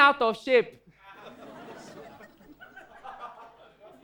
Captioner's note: audience laughs